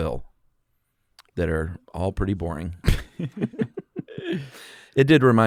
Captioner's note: laughs